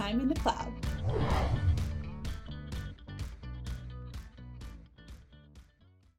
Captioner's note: upbeat music; logo whooshing